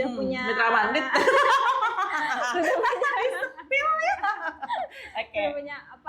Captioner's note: laughs